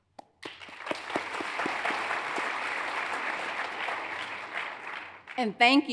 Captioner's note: hands clapping; audience applauds